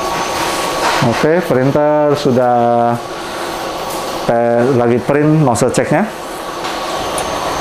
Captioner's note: printer machine sound; printer machine sound